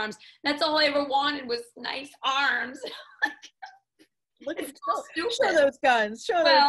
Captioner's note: laughs